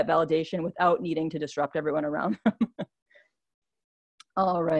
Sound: laughs

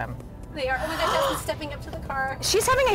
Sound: gasping

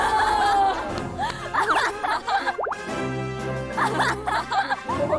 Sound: sigh

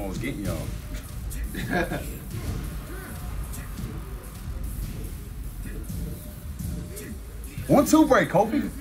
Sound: laugh

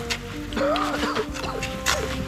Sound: coughs

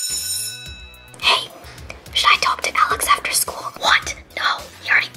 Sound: whispering

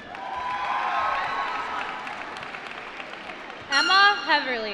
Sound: applause

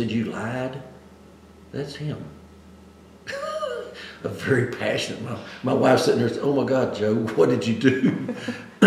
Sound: laughs

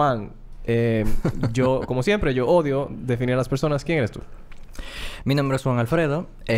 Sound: laughs

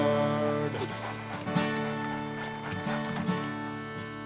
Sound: tires squealing

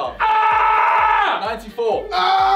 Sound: screaming

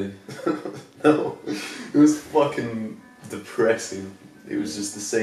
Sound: laughs

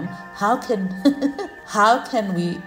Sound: chuckles

